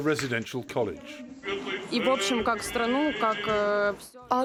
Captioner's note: through translator